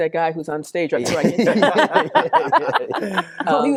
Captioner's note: laughing